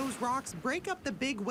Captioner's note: nat waves